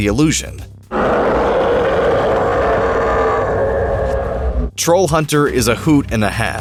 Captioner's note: it growls menacingly